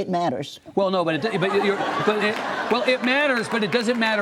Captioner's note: audience laughs